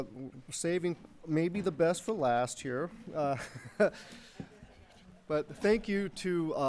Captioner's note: laughs